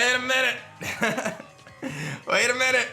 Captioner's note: laughs